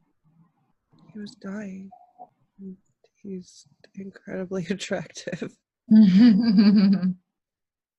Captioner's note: laughs